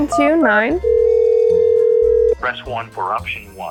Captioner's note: phone ringing